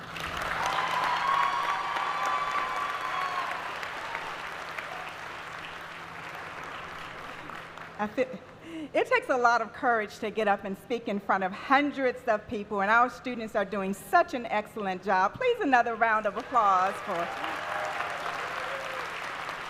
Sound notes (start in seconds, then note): 10.1 applause